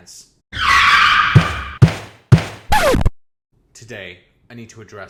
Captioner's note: brakes Screeching, thud noises, record scratching